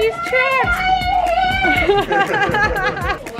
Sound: laughs

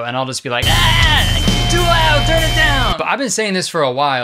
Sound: yelling

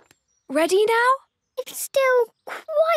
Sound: none

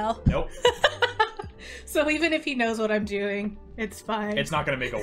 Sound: laughs

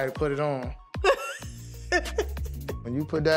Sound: laughing

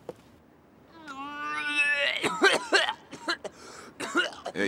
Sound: vomits

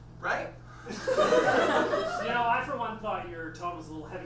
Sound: audience laughs

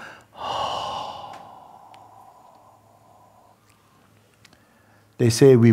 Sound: long exhale

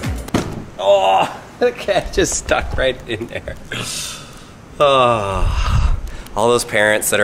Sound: laughs

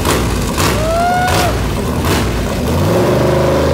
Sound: cheers

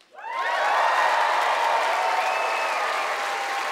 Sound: cheering and applause

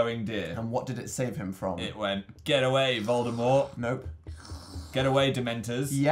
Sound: makes weird slurping noise

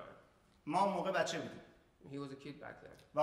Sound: speaking in farsi

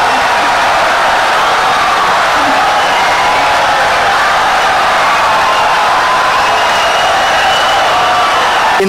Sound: wild applause and cheering for 17 seconds

